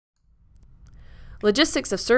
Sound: click

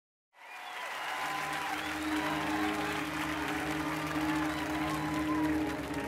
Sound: audience cheering and applauding

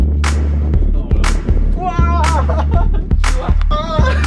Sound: scream!

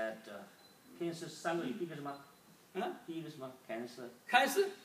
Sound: speaking foreign language

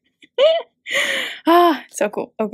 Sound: chuckling

